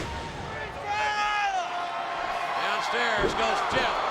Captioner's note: Jeff screaming